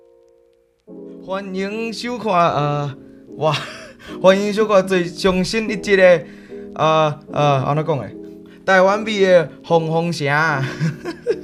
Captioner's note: piano music; Taiwanese